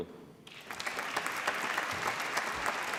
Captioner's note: applause